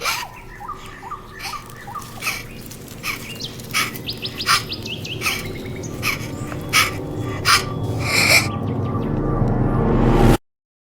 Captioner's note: increased breathing